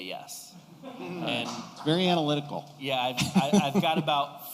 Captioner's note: laughter